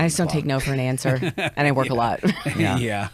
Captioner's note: laughs